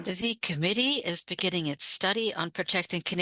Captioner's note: speaking French